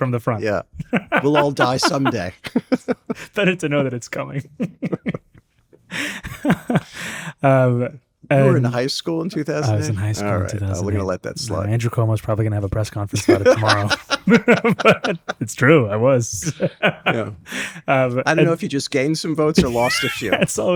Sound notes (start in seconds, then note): 5.7 laughs